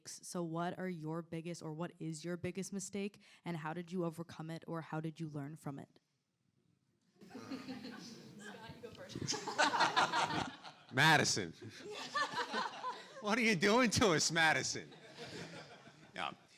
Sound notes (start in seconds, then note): 7.3 audience and panelists laughing